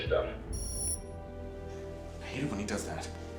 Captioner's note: beep